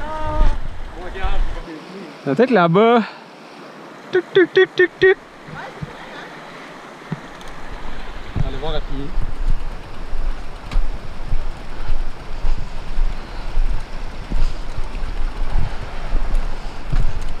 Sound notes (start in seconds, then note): 4.2 8-bit jump sound